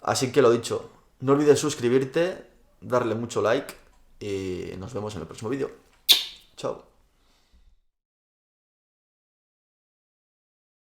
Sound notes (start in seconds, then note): 6.0 kisses